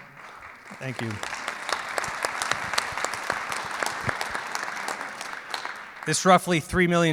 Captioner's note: clapping